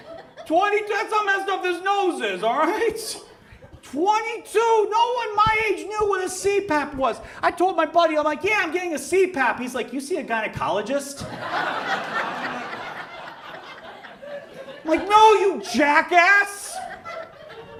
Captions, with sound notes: That's how messed up this nose is. Alright? 22. No one my age knew what a CPAP was. I told my buddy, I'm like, yeah, I'm getting a CPAP. He's like, "You see a gynecologist?" (audience laughs) Like, no, you jack**ss.